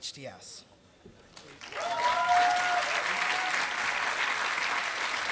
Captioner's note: applause